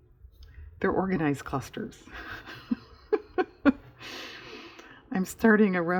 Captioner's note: laughs